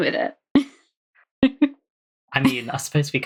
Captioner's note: laughs